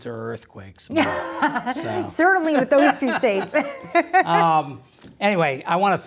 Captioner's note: laughs